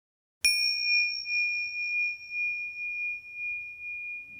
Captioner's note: bell chimes